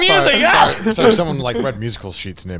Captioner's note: mocks sneeze